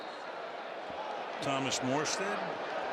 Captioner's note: whistle